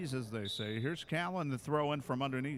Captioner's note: referee whistling